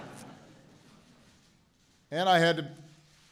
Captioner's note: laughter